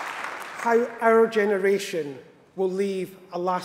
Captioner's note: applause